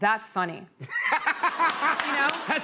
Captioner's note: laughter